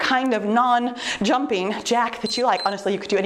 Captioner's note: timer beeps